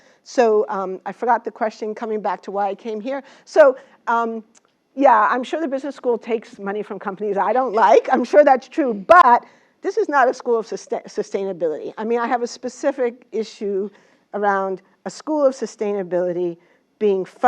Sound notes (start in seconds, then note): 7.7 laugh